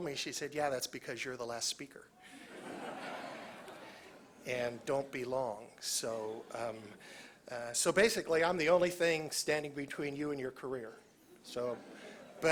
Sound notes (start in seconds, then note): 2.2 laughter